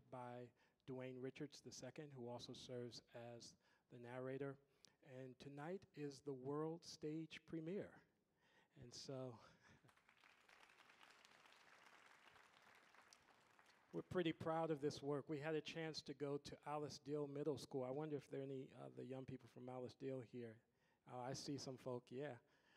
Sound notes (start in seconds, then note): 9.8 audience applauding